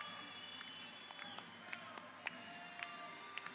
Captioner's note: crowd cheering